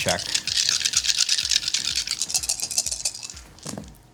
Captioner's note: clatter